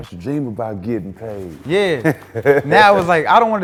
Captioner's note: Stephen laughs